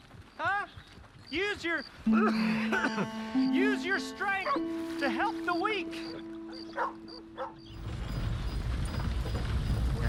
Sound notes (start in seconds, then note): 2.1 coughs